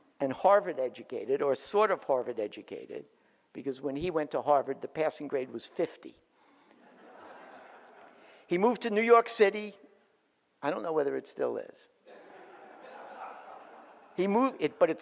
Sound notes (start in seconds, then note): 6.8 audience laughs; 12.0 audience laughs